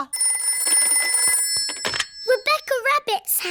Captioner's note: phone rings